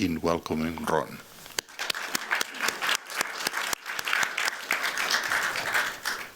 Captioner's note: applause